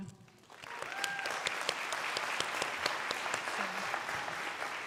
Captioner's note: crowd applauding